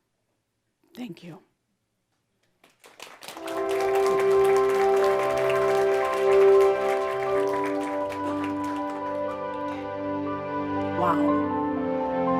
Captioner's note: audience applause